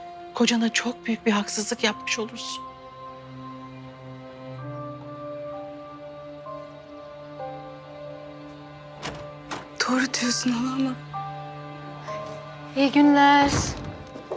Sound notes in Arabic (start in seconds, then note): 8.4 يفتح الباب